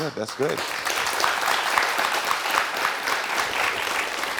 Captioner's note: crowd applauding